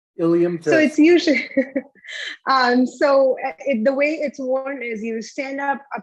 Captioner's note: laughs